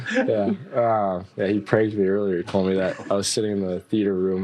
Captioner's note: laughter